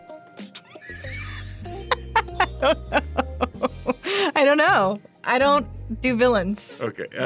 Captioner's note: laughs